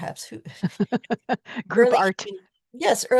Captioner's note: laughs